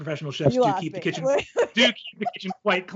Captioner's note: laughs